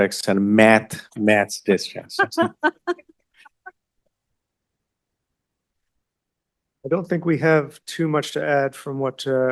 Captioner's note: laughter